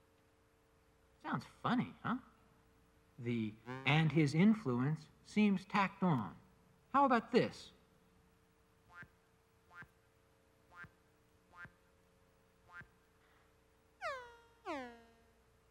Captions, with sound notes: Sounds funny, huh? The and his influence seems tacked on. How about this? [ slow beeps ]